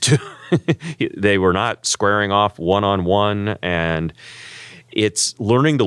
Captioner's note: laugh